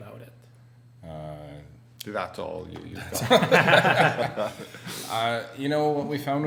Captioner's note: group laughter